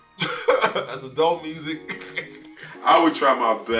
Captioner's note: laughs